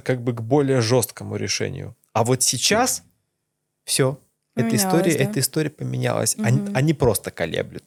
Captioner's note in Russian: откашливается